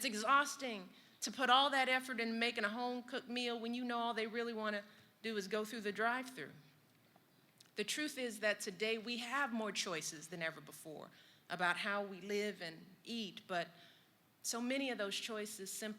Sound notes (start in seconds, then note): none